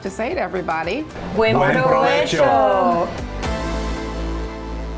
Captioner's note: non-english speech